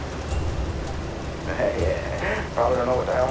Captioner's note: laughs